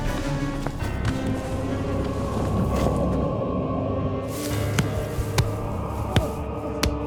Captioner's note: eerie music; blows thudding